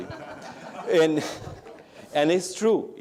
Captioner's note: laughter